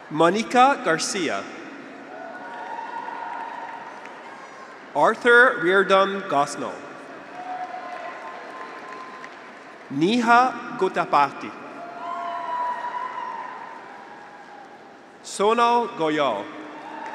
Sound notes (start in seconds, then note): 2.7 graduates cheer; 7.0 graduates cheer